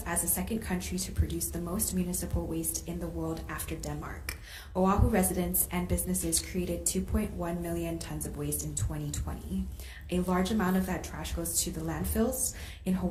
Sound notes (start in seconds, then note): none